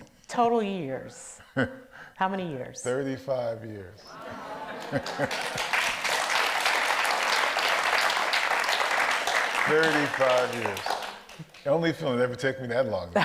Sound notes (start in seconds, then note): 4.2 audience applauds